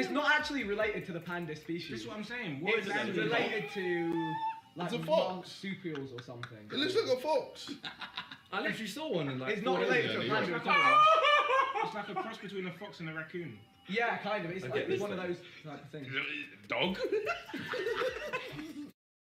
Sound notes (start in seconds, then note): 4.1 kettle noises; 7.6 lil cackle; 10.6 laughing loudly but not like a kettle; 16.9 giggle